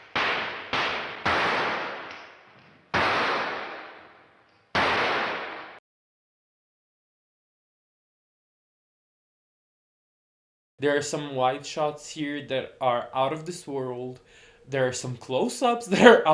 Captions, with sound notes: [gunshots] There are some wide shots here that are out-of-this-world, there are some close-ups that are